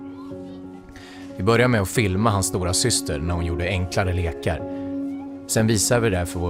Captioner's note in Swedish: Mansröst